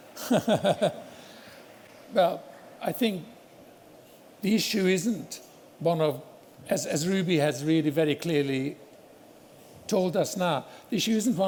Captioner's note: laughs